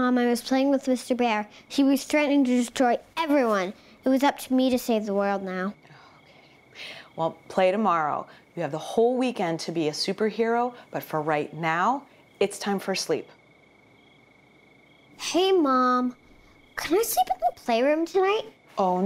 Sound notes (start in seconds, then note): 5.7 whispers